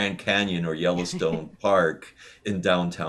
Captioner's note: laughs